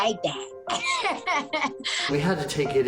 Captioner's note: laughs